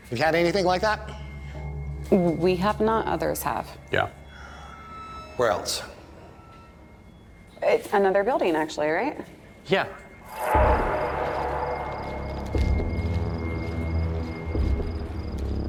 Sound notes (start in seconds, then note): 9.4 crickets chirping; 12.1 ominous music